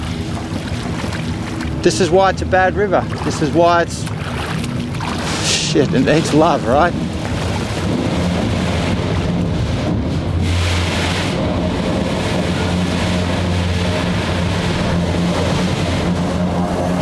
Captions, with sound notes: This is why it's a bad river. This is why it's.. shit and it's love, right? [train overhead]